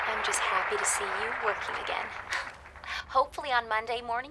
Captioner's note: audience applauding; chuckles